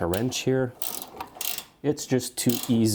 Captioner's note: wrench clicking